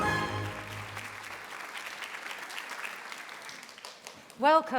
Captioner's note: audience applauding